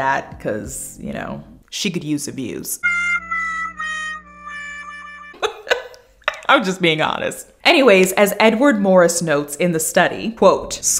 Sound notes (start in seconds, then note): 5.3 laughing